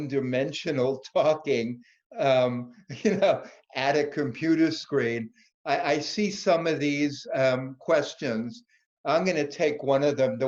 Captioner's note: laugh